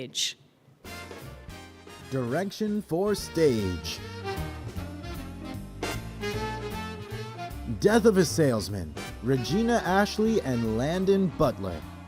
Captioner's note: applause